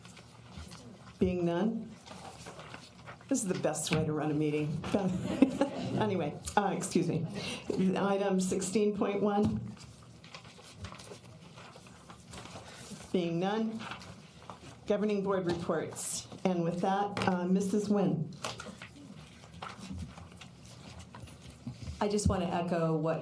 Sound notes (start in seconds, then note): 5.0 laughter